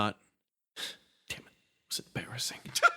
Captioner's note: whispering